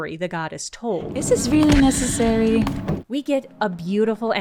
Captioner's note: laughingly